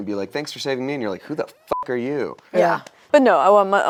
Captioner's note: beep